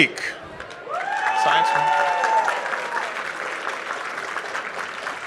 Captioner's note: applause